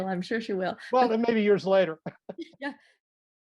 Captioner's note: laughs